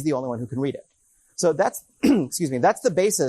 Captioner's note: clears throat